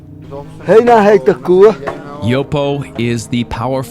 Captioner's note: speaking in foreign language